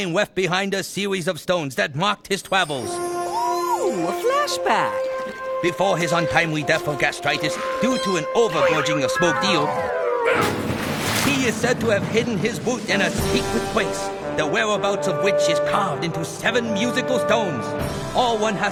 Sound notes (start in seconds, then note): 10.4 splashing